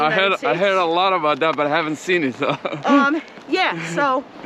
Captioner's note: giggles